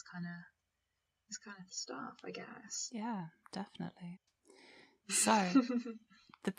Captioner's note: giggles